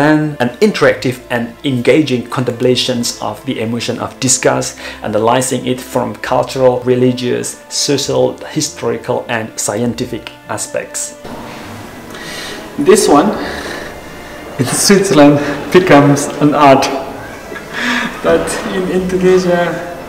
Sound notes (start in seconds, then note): 17.0 suara tertawa